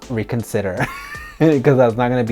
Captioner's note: chuckles